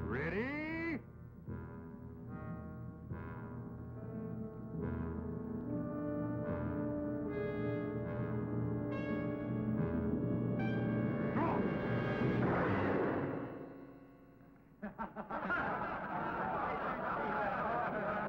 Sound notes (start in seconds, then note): 12.6 gun firing; 14.8 crowd laughing